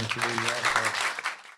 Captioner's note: applause